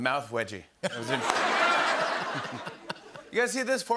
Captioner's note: laughter